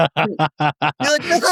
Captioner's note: laughing